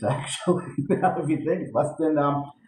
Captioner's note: laughs